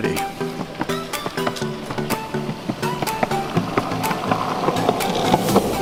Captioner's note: skateboard wheels clicking